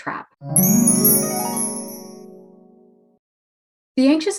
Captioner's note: chimes tinkling